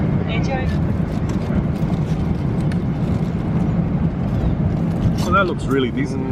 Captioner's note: folding tin foil